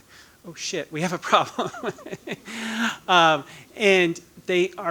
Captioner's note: laughing